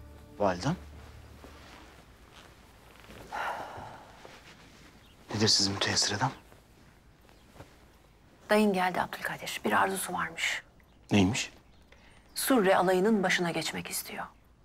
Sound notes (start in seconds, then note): 3.2 breathing sound